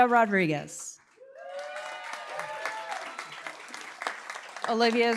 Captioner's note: cheering, applause